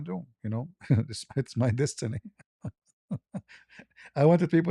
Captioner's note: ketawa